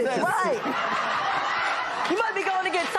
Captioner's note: laughter and applause